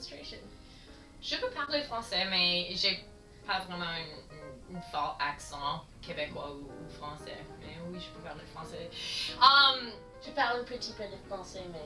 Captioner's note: speak in French